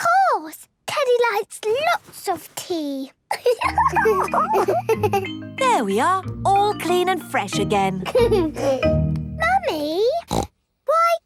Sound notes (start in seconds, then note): 3.3 giggles; 8.0 giggles; 10.2 snorts